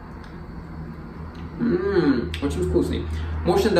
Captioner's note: tasty sound